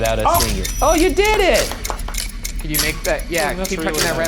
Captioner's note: clapping